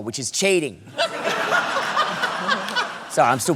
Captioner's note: laughter